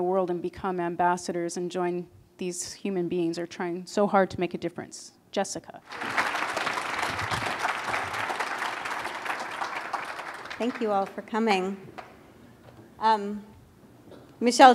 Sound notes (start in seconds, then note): 5.8 applause